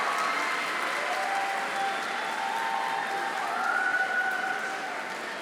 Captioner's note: audience applauding